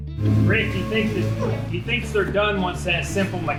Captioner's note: machine whirs